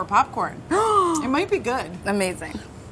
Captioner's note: gasps